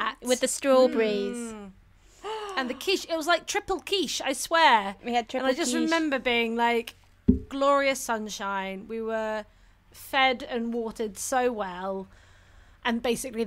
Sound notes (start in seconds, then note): 0.7 collective mmm’s